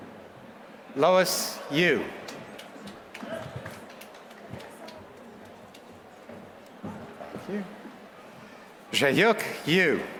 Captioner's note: applause; applause